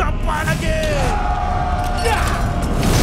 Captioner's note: soldiers roar